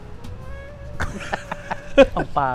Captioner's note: laughs